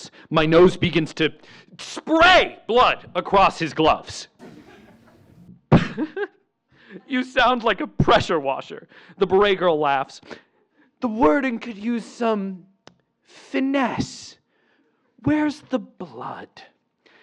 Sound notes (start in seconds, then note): 4.4 laughs